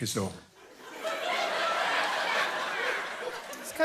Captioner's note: laughter